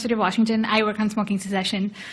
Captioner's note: woman's Voice